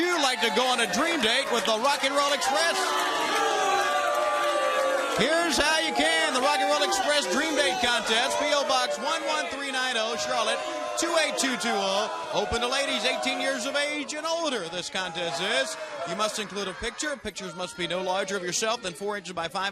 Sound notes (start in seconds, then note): 5.4 crowd chatter